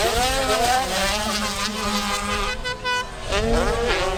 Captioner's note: air horn sounding off